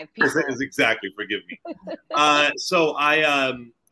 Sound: laughing

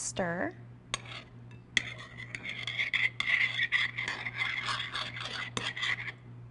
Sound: spoon scraping against bowl

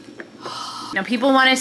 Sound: person sighs

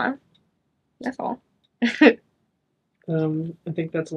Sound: chuckles

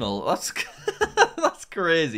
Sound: laughs

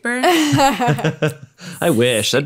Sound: all laughing

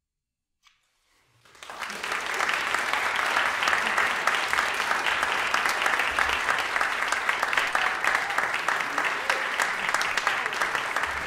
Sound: applause

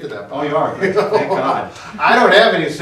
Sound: chuckles

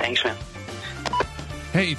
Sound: phone beeps

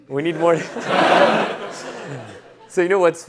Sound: laughter

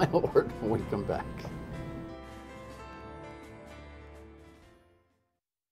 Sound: laughter

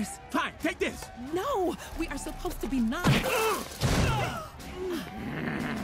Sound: gasps; grunts

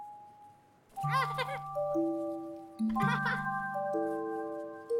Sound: child laughing

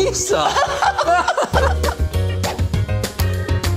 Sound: all laugh

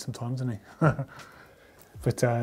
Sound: giggles

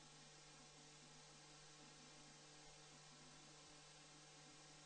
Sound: none

